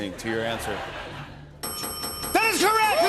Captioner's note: dinging